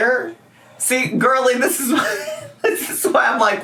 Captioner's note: laughs